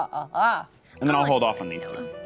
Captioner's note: laughs evilly